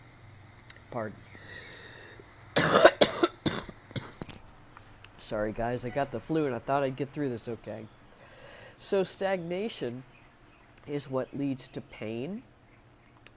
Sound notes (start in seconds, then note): 2.5 continues coughing